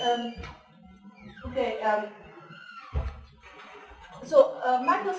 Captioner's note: pause